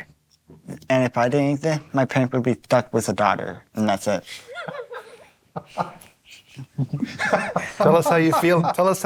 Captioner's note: laughter